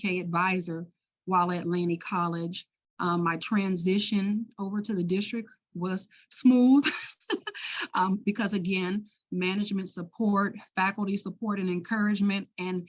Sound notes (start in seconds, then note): 7.5 laughs